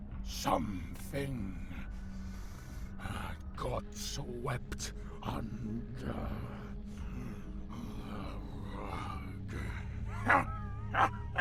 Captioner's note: sinister, guttural chuckling